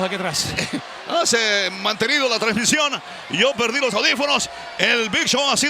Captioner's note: laugh